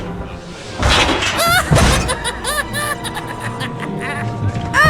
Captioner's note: laughter